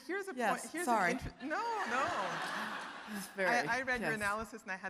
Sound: audience laughing

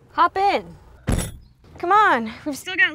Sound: sound of car door closing

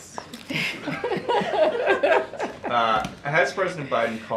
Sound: laughter

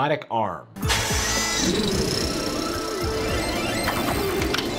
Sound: mechanical whirring

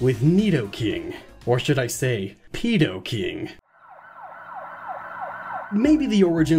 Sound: police sirens

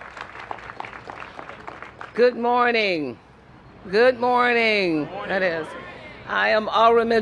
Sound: applause

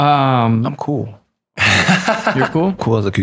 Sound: laughter

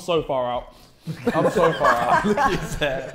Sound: Sidemen laughing

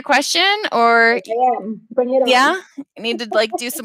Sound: speaking in Spanish

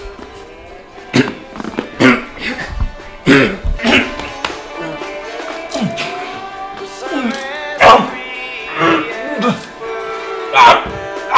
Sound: choking

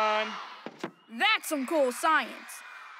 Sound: children screaming

